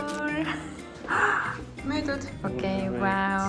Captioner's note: gasp